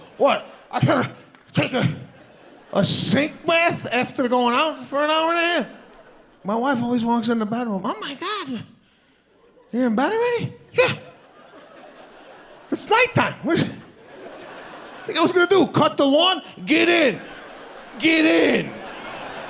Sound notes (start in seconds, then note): 13.7 audience laughing